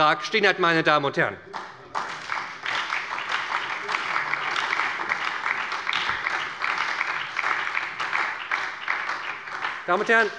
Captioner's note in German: Beifall bei der SPD